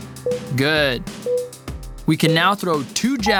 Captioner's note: timer beeping